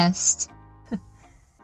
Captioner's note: laughs